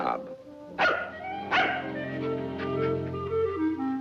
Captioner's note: dog barking